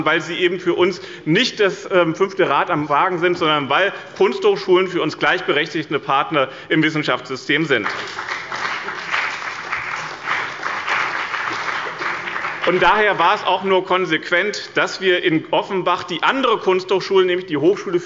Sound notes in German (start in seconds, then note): 7.8 Beifall bei dem BÜNDNIS 90/DIE GRÜNEN und der CDU